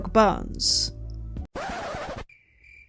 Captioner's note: record scratch